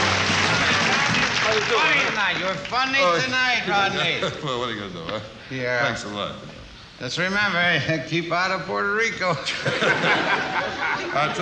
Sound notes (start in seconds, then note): 3.8 chuckles; 9.4 laughs